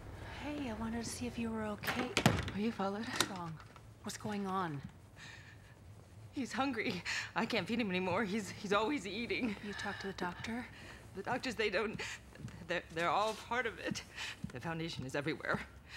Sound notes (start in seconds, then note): none